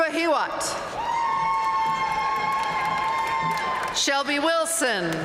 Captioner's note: audience cheering and applauding